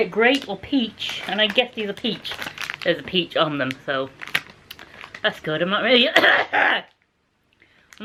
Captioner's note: coughing